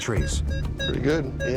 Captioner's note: beeping